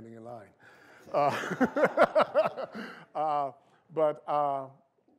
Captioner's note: laughter